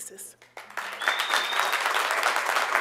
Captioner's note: applause